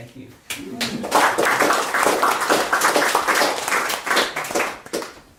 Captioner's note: applause